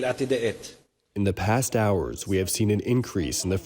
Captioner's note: through translator